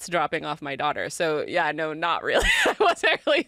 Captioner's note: laughs